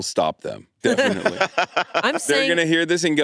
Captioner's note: all laughing